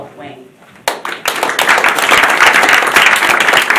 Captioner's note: applause